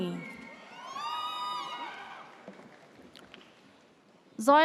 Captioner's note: audience cheers